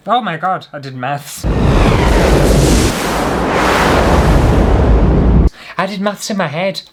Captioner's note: explosion!